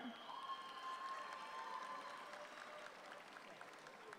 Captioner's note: audience applauds